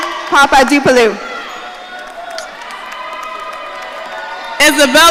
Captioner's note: audience cheering